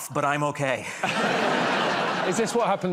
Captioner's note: laughter